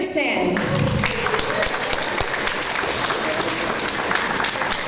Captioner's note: audience applause